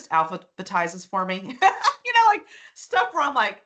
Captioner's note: laughing